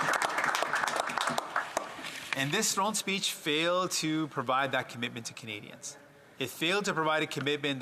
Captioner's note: some Applause